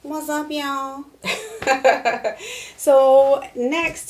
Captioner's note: laughing